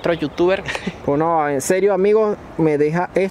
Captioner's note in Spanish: suspiro